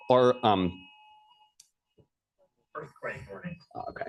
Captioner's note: alarm